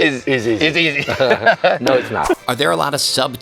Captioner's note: laughs